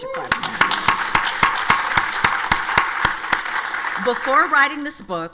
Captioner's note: audience applauds